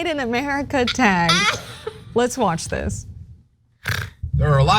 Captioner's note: laugh